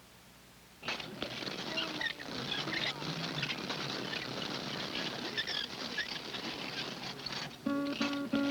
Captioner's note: bicycle wheel spinning